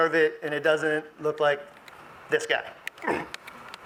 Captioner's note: clears throat